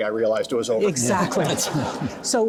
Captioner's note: audience laughing